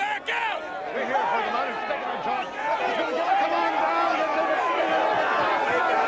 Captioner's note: all yelling